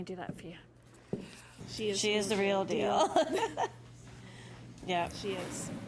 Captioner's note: laughing